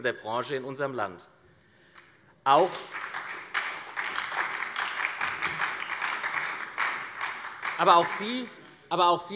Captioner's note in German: Beifall bei der SPD und bei Abgeordneten der LINKEN